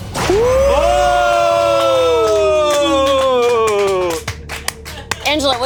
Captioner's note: group applauding